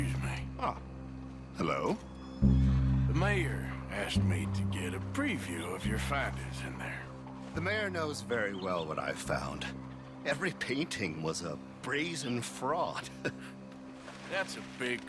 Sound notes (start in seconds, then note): 13.1 chuckles